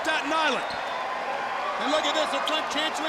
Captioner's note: crowd chatter